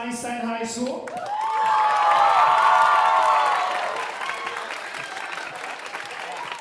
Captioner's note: audience cheering and applauding